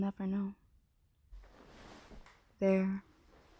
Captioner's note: bed shifting noises